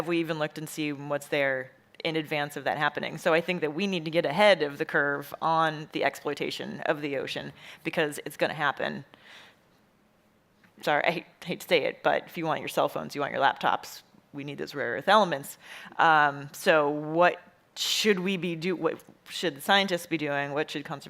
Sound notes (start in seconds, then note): none